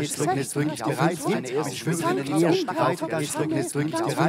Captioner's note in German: Er variiert seine Stimmhöhe